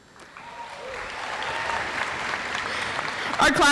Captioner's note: audience applauds